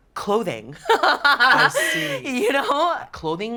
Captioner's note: laughs